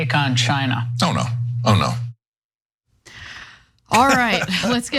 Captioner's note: laugh